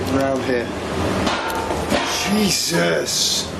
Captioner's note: clanging